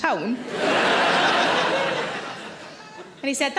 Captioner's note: audience laughing